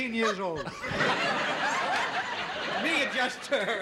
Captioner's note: audience laughs